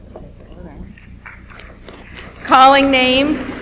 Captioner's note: audience applauds